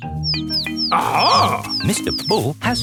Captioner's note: chirping